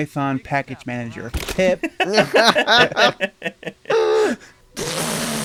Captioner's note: everyone laughs